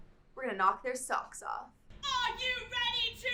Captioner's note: crowd cheers